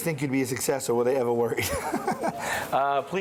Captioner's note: laughs